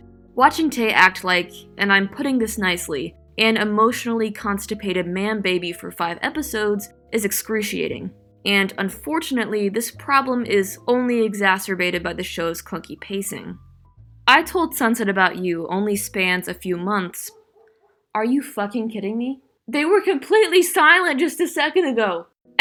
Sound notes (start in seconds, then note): 17.2 dogs barking in background